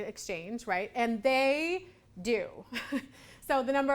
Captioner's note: laughs